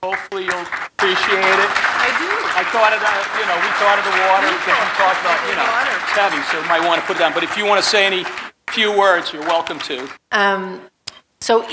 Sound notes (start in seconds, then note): 2.3 audience clapping